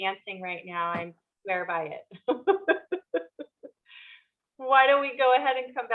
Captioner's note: laughing